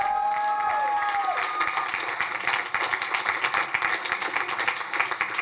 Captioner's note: crowd applauding